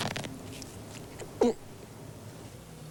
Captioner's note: gulp